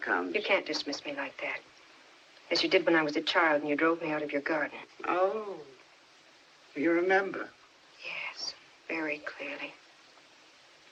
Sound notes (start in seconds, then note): none